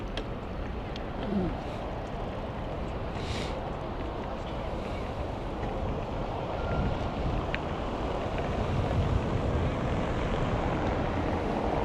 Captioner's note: wind Blowing